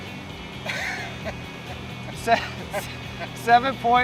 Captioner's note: laughter